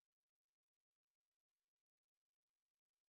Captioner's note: none